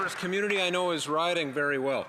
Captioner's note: some Applause